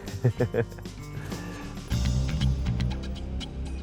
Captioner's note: chuckles